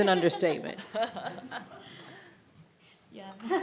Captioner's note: everyone laughing